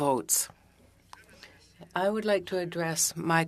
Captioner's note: speaking french